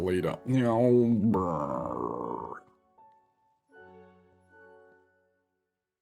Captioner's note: growling